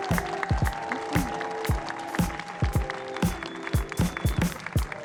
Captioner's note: gentle upbeat music; audience clapping